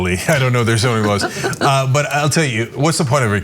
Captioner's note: laugh